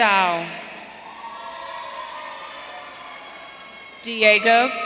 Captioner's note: audience cheering